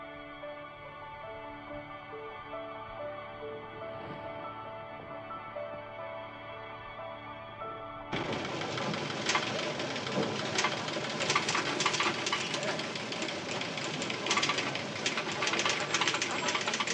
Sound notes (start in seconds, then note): 13.2 chattering, Indistinct